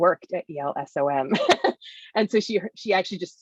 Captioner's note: laughs